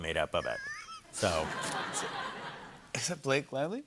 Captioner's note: laughter